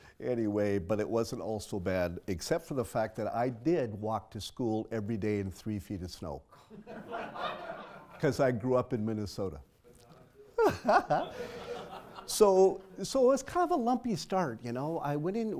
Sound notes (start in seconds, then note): 6.8 laugh; 10.5 laughs